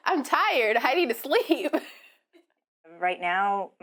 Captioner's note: laughing